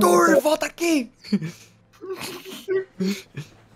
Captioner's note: laughs